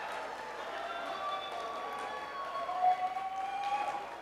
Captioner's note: cheers and applause